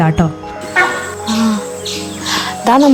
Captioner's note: Sambhar deer's call